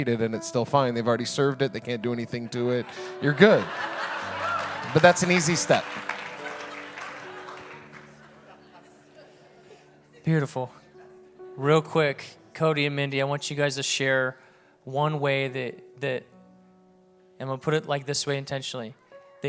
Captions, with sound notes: and it's still fine, they've already served it, they can't do anything to it, you're good. (audience laughing) But that's an easy step. (audience clapping) (audience laughs) - Beautiful, real quick, Cody and Mindy, I want you guys to share one way that, and we'll put it like this way intentionally.